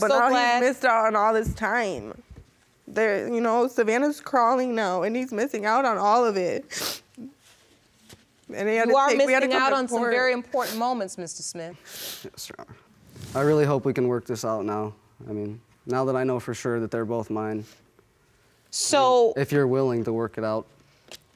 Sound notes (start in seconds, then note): 6.7 sniffling